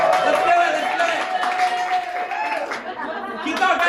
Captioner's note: cheering